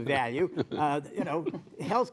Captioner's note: laughter